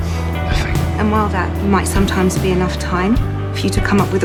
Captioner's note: voiceover